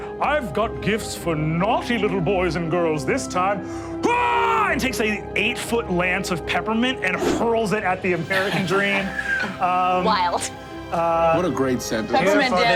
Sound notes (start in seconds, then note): 4.0 screams; 8.3 chuckles